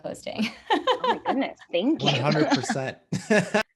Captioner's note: laugh